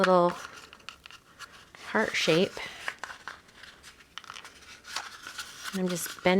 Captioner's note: paper crinkling